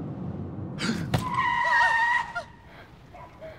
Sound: car tires screech; pedestrian gasps; driver gasps; both panting

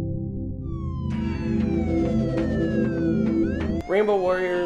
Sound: sirens

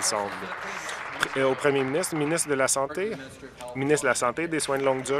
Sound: applause

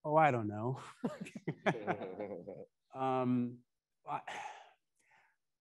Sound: attendees laughing

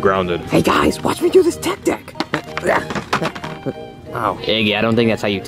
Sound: grunting

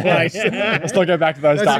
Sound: laughing

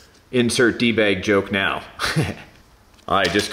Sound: laughs

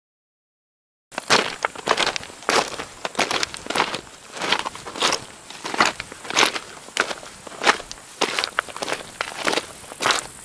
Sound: sound of footsteps

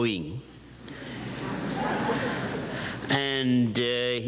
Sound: audience chuckles

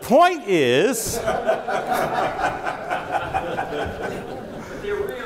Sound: audience laughing

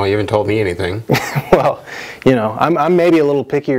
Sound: laughs

